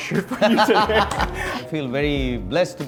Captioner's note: both laughing